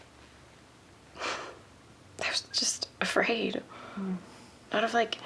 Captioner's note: sigh